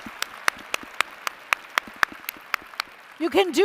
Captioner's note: applause